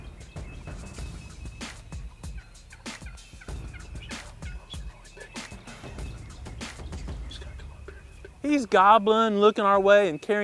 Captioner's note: whispering